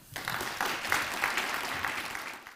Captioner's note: audience clapping